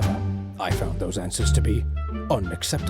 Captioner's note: none